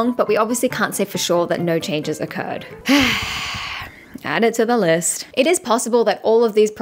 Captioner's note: sigh